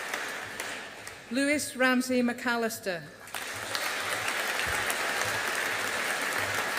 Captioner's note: audience applauding